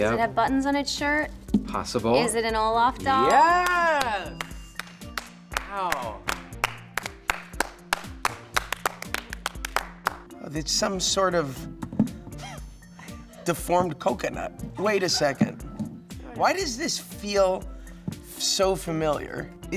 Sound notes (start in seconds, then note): 6.1 clapping